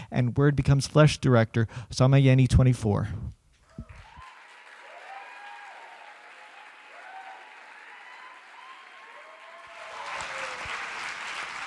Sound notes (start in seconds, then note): 3.7 audience cheering; 3.7 audience clapping